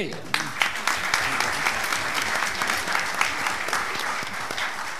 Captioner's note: audience clapping